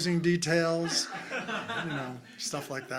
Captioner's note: crowd laughing